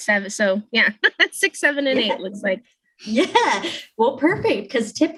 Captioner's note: chuckles